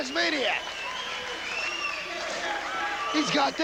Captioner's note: crowd cheering